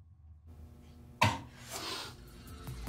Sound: vomiting; sniffle

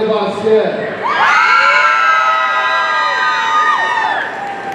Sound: audience cheering

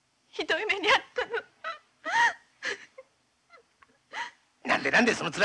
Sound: weeping

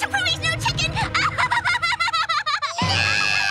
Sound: laughing

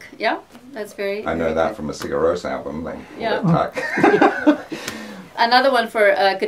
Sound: laughter

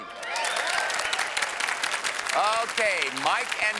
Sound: cheers and applause

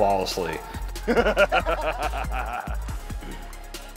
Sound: laughs

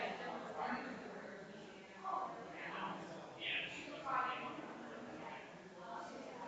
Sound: people chattering distantly continues

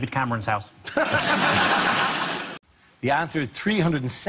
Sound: audience laughs

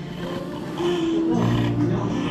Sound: with a gulp

